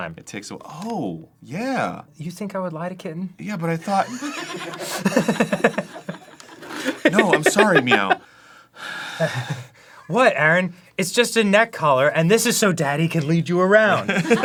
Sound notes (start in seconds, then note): 4.0 soft chuckling at kitten; 8.2 deep breath